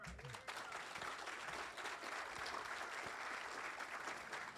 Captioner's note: audience applauding